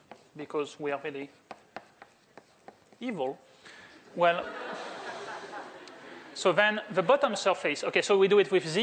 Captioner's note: laughter